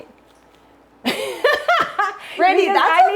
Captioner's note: Brandi laughing